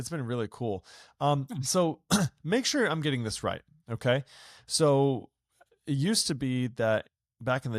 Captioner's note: clears throat